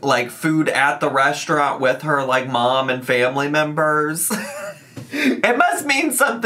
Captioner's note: laughs